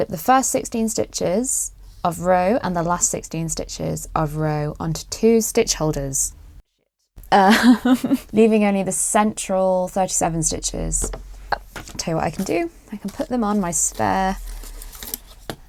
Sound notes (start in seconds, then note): 7.4 awkward giggle; 8.2 under her breath